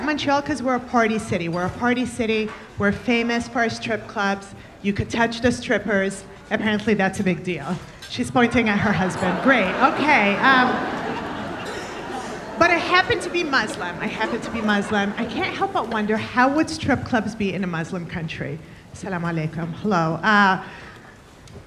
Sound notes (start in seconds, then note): 11.2 audience laughing